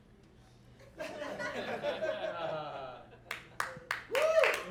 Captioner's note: audience laughing; audience applauding and cheering